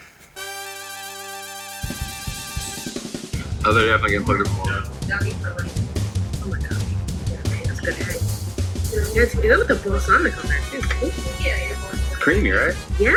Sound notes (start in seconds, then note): 7.0 speaking away from mic